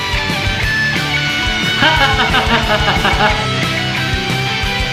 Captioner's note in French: rire flippant, le retour